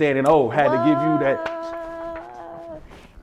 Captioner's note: clapping